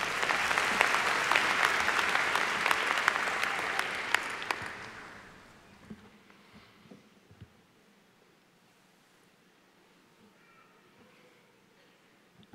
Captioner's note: applause